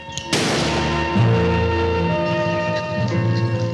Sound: gun fires

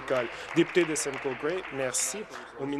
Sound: applause

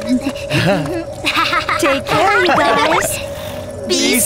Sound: all laugh

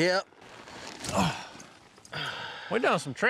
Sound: all sigh

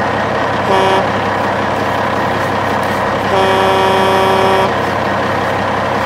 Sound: horn Sound of Truck

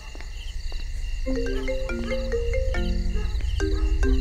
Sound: phone ringing

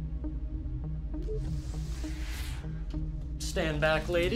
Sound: door beeps and whooshes

